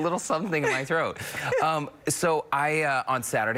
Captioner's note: laughter